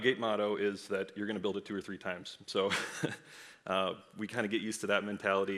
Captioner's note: laughs